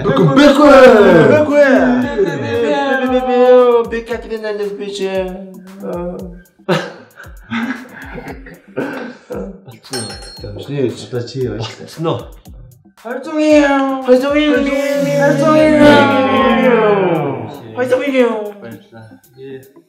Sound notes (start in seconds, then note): 7.4 laughter; 15.1 car vrooming